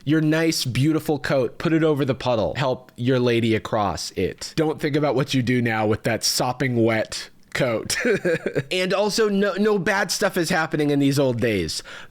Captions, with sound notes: Your nice, beautiful coat, put it over the puddle. Help your lady across it. Don't think about what you do now with that sopping-wet coat." (laughs) And also, no bad stuff is happening in these old days!